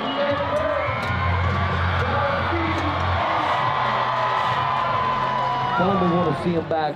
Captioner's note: large crowd cheers